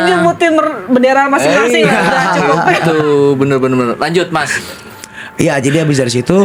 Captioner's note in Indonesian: tertawa